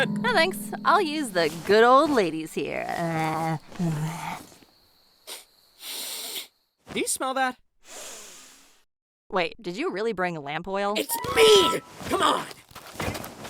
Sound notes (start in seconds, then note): 5.7 sniffity-sniff sniff; 7.9 sniff to check if it wasn't her